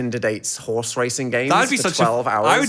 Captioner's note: overlapping chatter